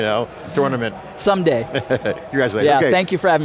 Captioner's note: chuckles